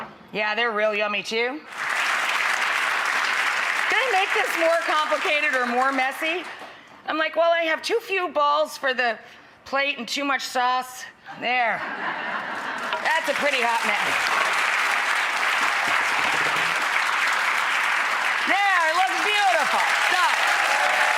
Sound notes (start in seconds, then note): 1.6 audience claps; 11.8 audience laughs; 14.4 audience claps; 20.9 audience claps and cheers